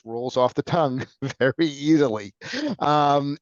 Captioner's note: chuckles